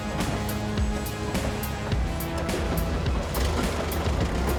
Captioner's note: digger rumbling